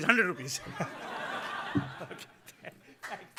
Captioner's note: laughing